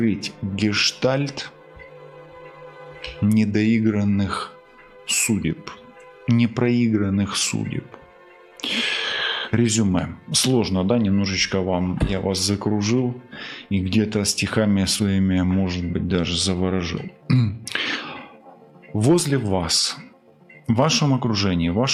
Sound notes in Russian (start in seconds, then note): 8.6 тяжело вздыхает; 17.2 откашливается